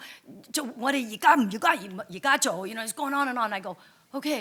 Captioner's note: speaks in foreign language